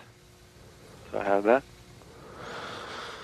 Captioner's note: sighing